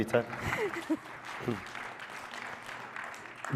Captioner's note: applause